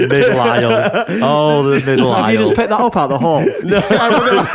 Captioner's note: laughter